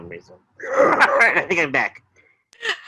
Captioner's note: chuckles